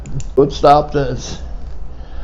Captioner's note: pen clicking